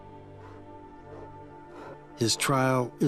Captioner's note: bears pant